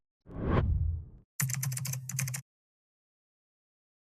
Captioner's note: keyboard keys tapping